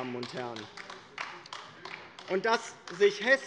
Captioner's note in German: Beifall bei der LINKEN